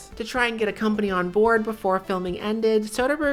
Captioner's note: none